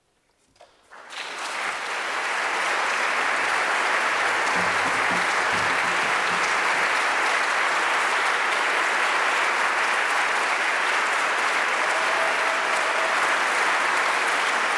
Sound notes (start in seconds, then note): 0.9 attendees applauding